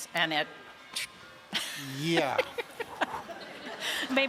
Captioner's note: laughs